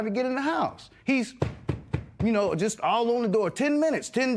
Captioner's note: tapping